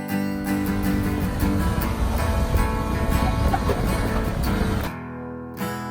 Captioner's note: soft music; car engine roars